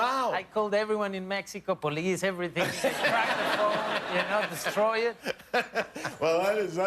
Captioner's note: laughter